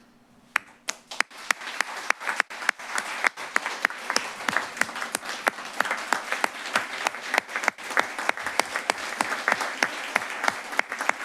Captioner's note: applause